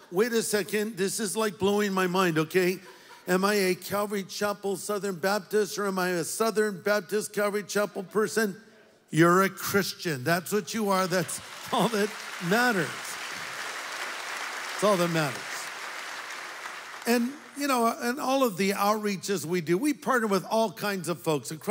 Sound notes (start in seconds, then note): 13.1 audience applauds